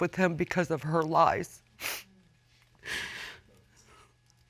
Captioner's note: sniffles